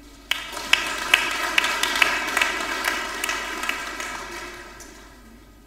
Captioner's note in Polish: oklaski